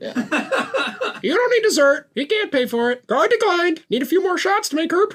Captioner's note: laughter; parrot voice